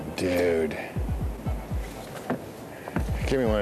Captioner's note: footsteps clomping; object clattering